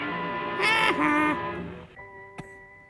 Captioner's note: Crow, mockingly